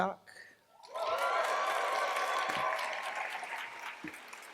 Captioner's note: cheers, applause